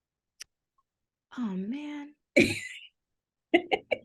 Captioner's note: laughter